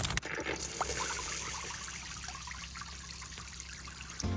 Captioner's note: water trickling